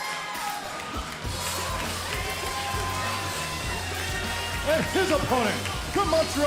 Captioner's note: crowd cheering